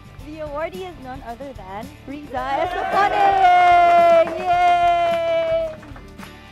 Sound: applause

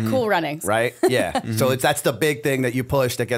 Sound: chuckle

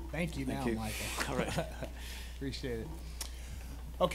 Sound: laughing

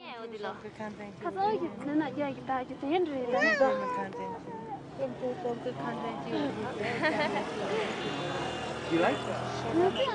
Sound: talking in Tibetan

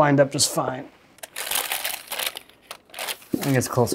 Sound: wrapper rustles

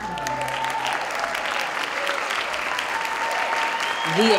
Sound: applause

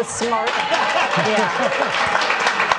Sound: audience applauding

